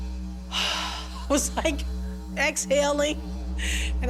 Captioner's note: sighs